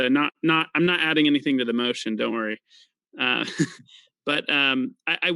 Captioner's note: laughs